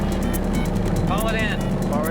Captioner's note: touch-tones beeping